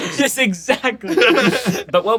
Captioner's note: laughs